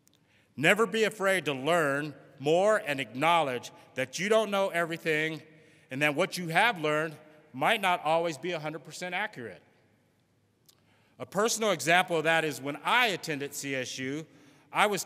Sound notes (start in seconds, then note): none